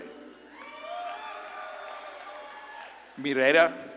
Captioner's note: audience claps and cheers